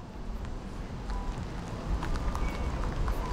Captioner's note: wind